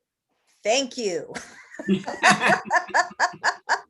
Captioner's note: both laugh